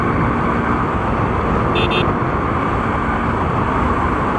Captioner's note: horn Sound